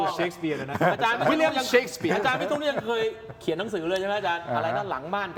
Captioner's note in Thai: เสียงหัวเราะ